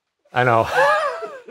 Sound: laughs

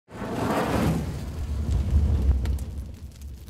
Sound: fire kindling

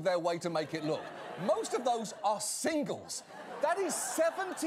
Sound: audience laughter

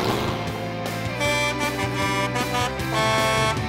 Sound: honking

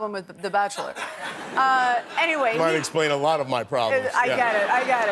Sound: laughter

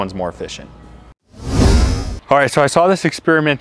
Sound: electronic whoosh sound

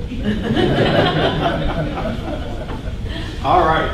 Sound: laughing

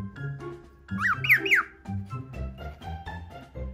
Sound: chick bark

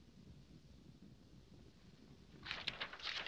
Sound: none

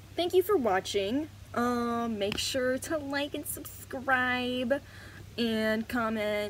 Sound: silly ahh voice

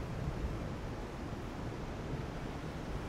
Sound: wind gusts

